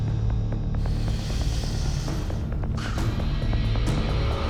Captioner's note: suspenseful music; deep breath